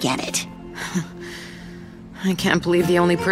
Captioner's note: chuckles